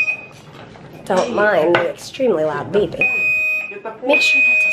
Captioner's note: beep!